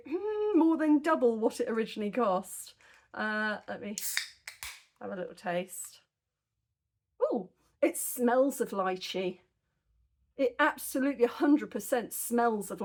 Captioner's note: can opening